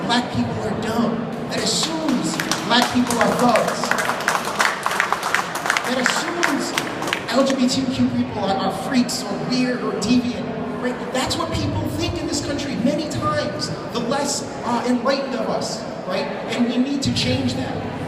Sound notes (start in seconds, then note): 4.3 applause